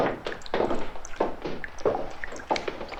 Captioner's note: footsteps above. water dripping